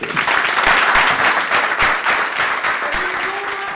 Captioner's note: crowd claps